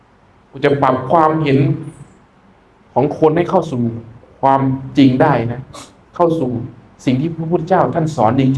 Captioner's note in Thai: เสียงสูดหายใจ